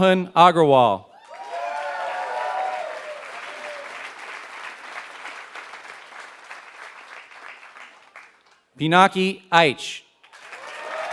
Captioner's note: applause; applause